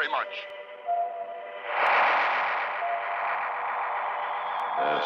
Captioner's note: magnetic humming